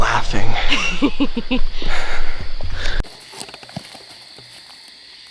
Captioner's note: laughs